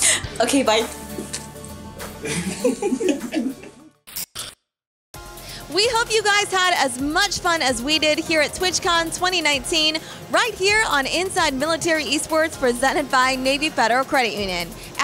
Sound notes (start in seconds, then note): 2.2 laughing